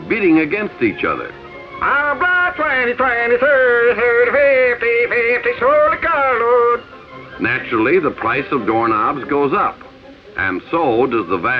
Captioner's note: auctioneer gibberish